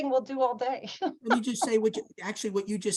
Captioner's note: laughs